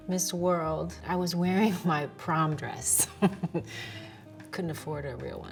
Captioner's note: chuckles